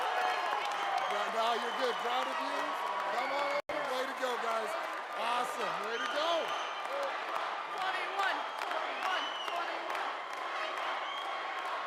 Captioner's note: cheers and applause